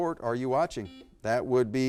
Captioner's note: buzzer beeps